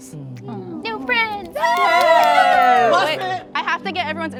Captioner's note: everyone cheering